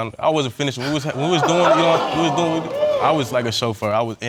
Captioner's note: audience exclaims